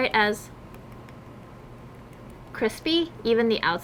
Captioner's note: tapping softly